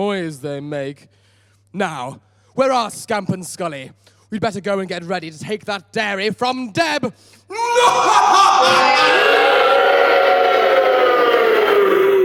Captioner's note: audience boo